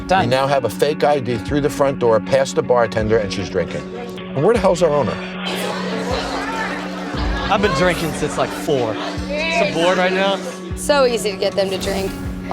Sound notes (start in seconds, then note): 5.4 chatter